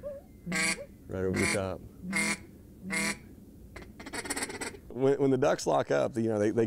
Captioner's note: duck calls